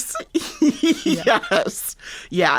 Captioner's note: laughter